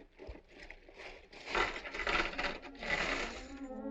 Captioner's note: coins clinking